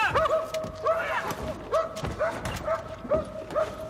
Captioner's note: man shouting; barking continues